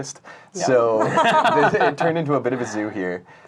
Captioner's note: laughing